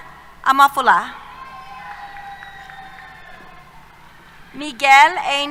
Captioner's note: applause